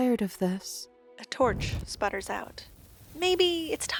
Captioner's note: embers dying